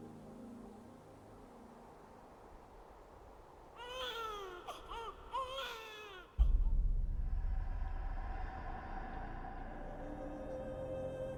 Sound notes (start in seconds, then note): 3.8 baby crying